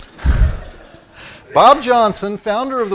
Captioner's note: audience laughing